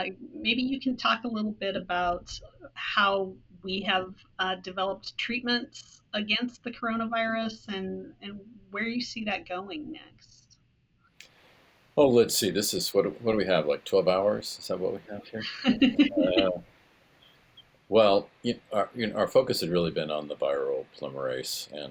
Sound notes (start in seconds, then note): 15.4 laughs